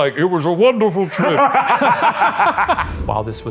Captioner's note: both laughing